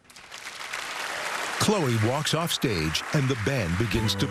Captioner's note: applause